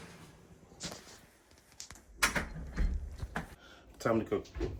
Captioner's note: door closing